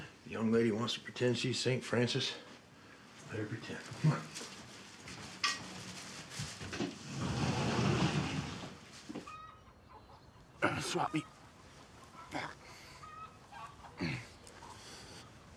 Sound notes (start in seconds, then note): 7.4 door whooshes; 9.1 chickens clucking; 12.2 groans